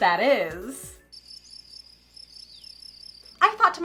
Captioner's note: crickets